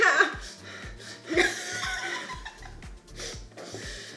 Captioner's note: laughing